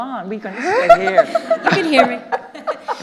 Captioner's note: all laughing